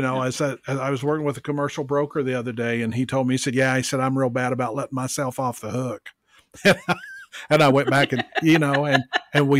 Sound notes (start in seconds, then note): 6.6 laughs